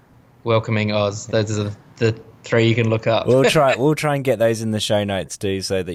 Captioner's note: laughs